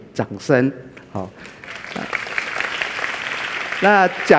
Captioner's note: applause